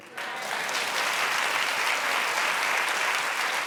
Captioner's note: audience claps